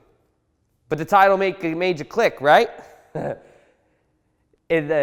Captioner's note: chuckles